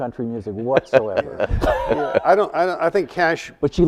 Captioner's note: panelists laughing